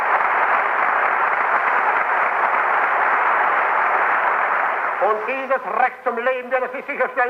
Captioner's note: applause